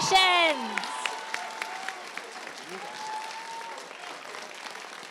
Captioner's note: applause